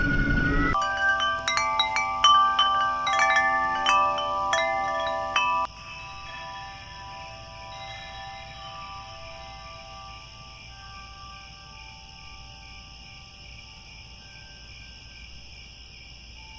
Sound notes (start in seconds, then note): 0.7 crickets, wind chimes